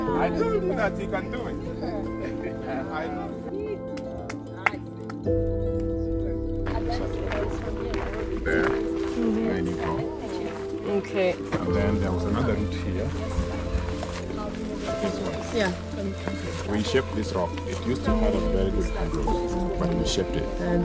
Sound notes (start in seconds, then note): 2.5 laughing